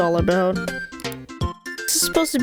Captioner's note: mouse Clicking